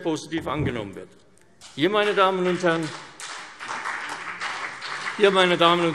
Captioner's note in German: Beifall CDU und BÜNDNIS 90/DIE GRÜNEN